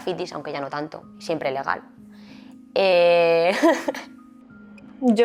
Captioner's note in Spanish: risas